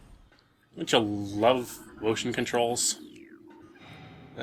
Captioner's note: semi-sarcastically